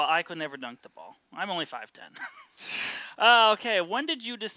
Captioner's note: both laughs